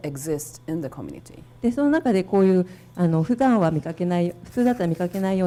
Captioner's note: speaking foreign language